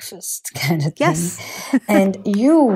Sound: laughing

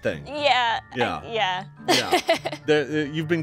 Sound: laughs

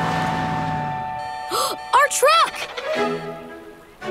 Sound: gasps

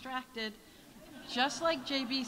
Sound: audience laughs

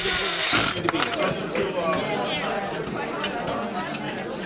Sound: drilling and breaking

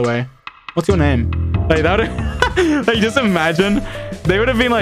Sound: laughs

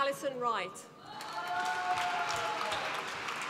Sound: applause

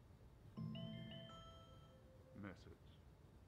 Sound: mobile bleeps - "message"

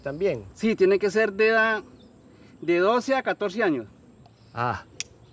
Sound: speaking in foreign language

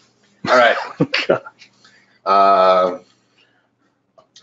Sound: man chuckling

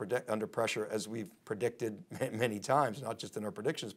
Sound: chuckles

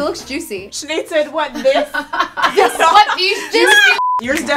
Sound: laughs

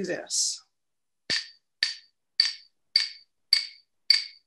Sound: objects tapping

